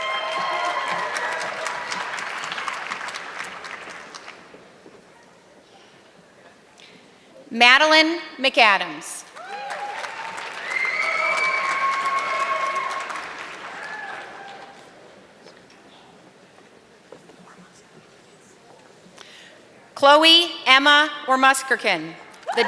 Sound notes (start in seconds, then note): 0.0 audience clapping; 9.2 audience clapping